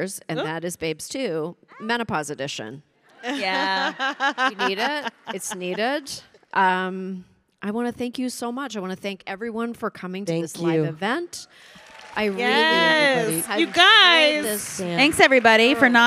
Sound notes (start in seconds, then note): 11.6 audience applauding